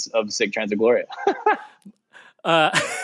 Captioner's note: laughing